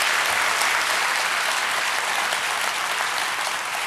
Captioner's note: cheers and applause